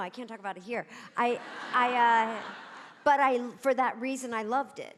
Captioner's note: audience laughing